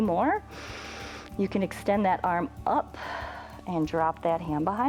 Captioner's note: inhales